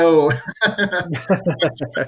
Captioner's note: laughs